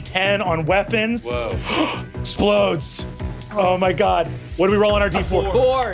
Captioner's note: gasps